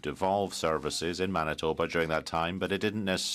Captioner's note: speaking in french